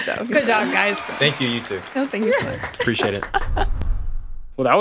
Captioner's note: chuckling